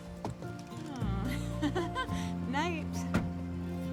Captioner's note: laughing